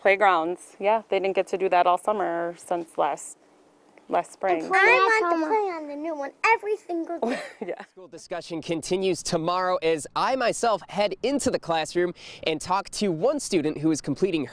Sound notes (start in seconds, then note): 4.6 laughs